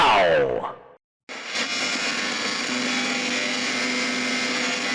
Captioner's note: masculine, Projected Voice; static